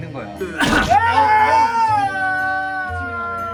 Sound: triggered and now coughing

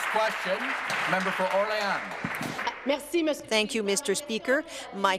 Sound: applause

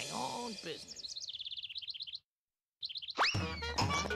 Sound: twittering

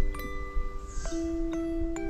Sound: annoying squeaky bird

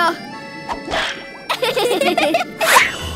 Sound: laughing

